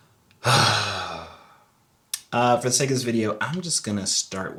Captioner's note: sighs